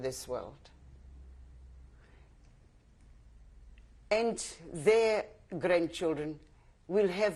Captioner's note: pauses for 3 seconds